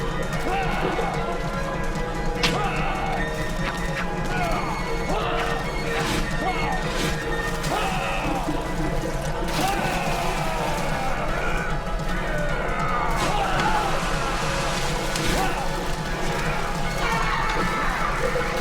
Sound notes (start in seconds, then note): 2.2 arrow shooting; 4.0 wooshing; 9.5 splash